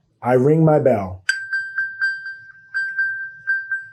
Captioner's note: electronic bell